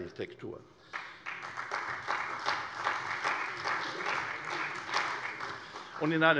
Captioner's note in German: Beifall bei der CDU